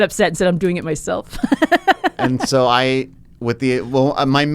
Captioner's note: laughs